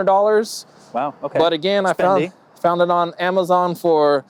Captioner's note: murmurs